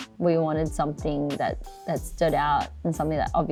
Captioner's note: none